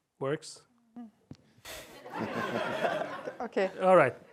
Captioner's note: laughter